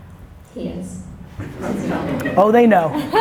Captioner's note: audience laughter